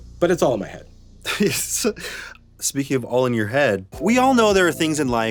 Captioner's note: laughs